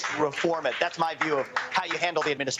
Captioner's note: cheers and applause